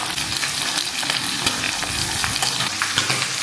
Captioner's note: sizzling, bubbling, popping